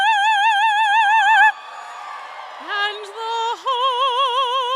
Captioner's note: cheers and applause